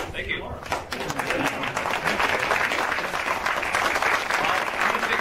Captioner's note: applauding